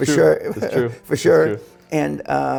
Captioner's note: laughs